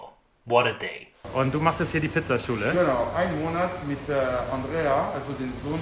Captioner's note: speaking in foreign language